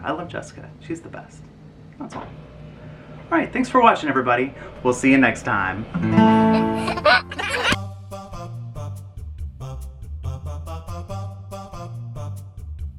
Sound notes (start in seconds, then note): 6.1 guitar strums; 6.2 giggles; 8.0 funky music